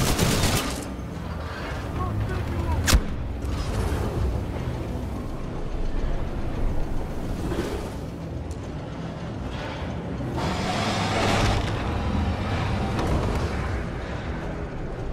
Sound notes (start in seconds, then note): none